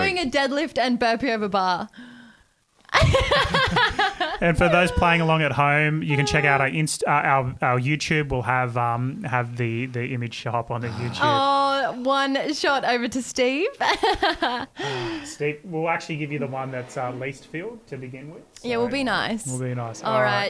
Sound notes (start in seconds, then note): 2.9 laughing; 13.8 laughs